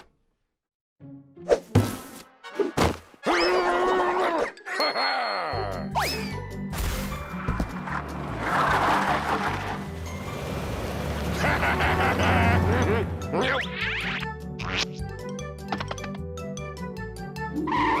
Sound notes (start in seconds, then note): 1.7 box whooshes